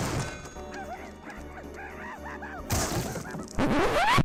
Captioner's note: Handy yelps